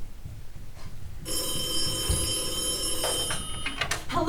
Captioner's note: ring